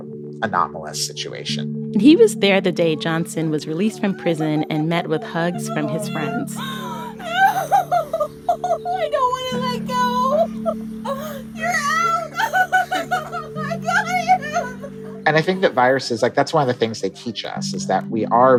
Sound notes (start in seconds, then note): 6.4 soundbite of archived recording; 10.2 crying; 12.3 laughter; 13.7 crying